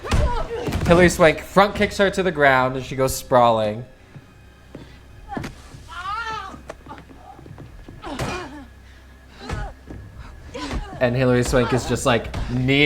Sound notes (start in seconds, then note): 4.7 wincing and grunting